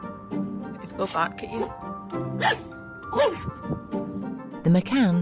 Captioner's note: Kylo barks